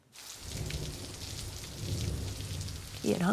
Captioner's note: soft thunder